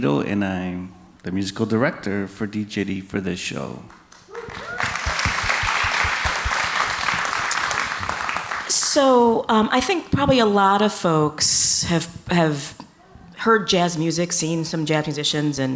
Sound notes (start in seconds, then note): 3.8 audience clapping; 4.1 audience cheering